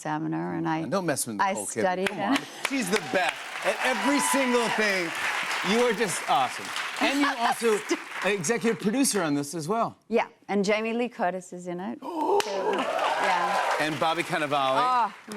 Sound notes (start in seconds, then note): 2.5 cheers and applause; 11.9 gasping; 12.2 cheers and applause